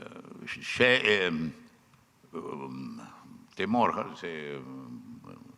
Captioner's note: speaking foreign language